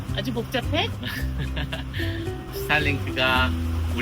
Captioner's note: laughs